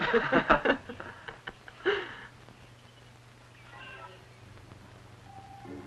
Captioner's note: Kirska and the student laughing